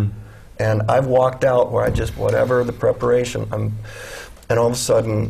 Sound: sigh

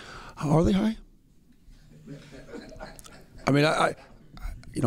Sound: laughter

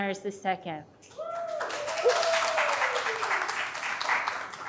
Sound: audience applauding

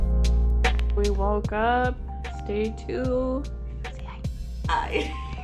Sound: whispers

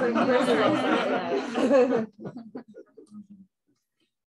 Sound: laughter

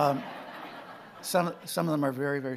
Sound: audience laughing

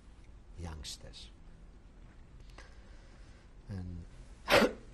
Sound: pauses for 3 seconds

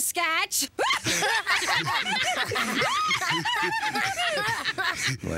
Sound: all laughing

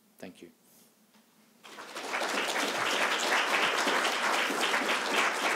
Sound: applause

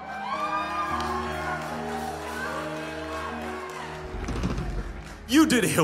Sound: congregation laughing and cheering

